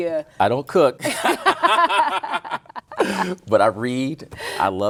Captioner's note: both laughing